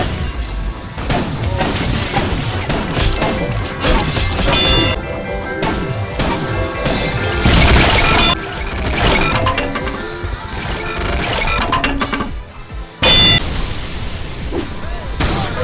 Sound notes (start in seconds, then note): 8.0 clock bell; 8.6 tick tick tick tick tick